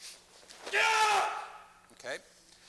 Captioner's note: yells